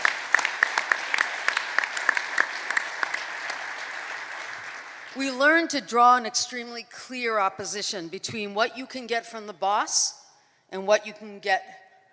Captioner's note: applause